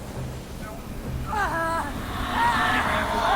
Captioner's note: scream